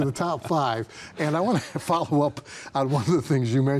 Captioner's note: chuckling